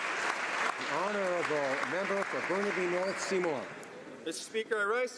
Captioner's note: applause